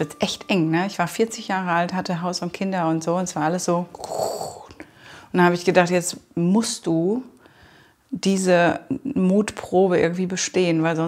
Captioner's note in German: Einatmen